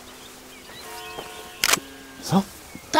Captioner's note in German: Kameraklicken